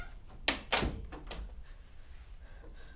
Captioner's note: shutting door, lock